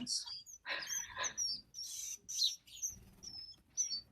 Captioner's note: chirping